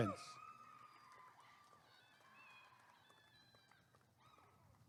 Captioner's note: applause and cheering